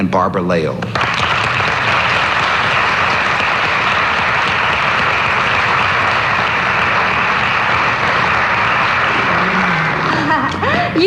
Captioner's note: applause